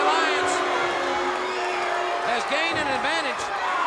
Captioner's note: crowd boos